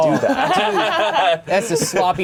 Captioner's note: all laughing